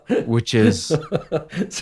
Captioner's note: laughter